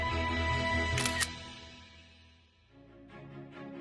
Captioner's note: camera shutter sound